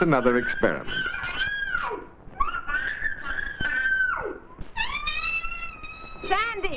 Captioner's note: children shrieking